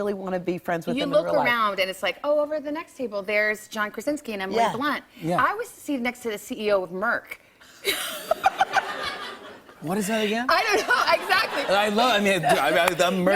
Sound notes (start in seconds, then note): 7.8 laughter